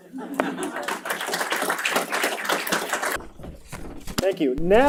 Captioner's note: applause